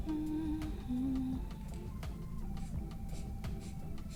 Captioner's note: humming